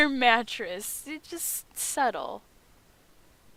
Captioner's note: stutter